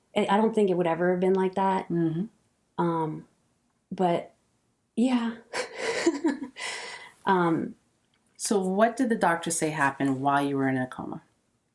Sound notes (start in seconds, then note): 5.6 chuckles